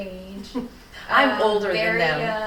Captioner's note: laughing